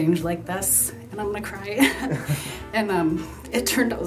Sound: laughs

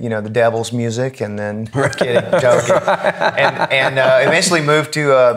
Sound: laughing

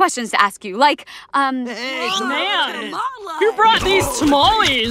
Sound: yelling

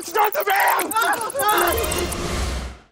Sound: screaming

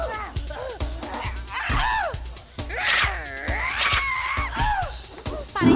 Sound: both grunting; snarling; shrieks

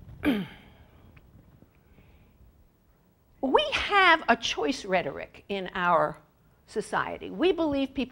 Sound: cough

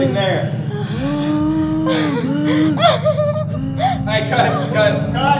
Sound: laughing

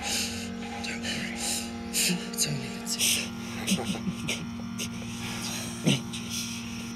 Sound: chuckling

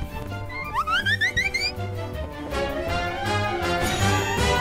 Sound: whizzing by like a wasp

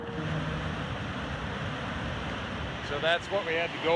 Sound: water rushing

